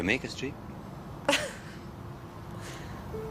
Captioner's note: laughing